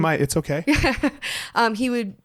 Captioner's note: laughs